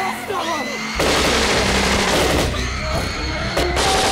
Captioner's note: rapid gunfire